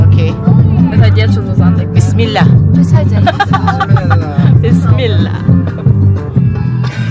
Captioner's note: speaking German; laugh